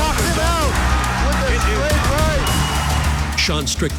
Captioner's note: crowd cheering